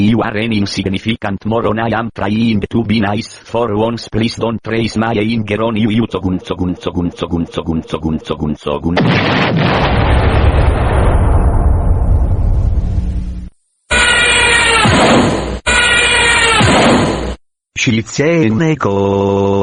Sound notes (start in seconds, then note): 8.9 explosion!; 13.9 crash!; 14.5 zoom!; 16.6 crash!